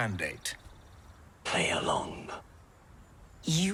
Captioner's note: whispers